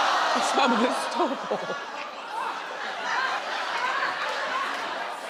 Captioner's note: crowd laughs